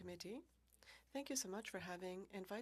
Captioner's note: speaking French